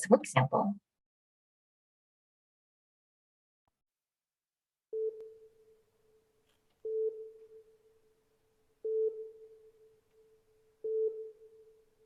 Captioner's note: beeping